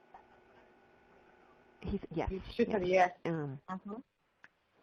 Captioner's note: muttering affirmatives